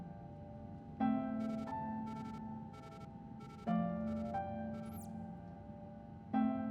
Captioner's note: device beeping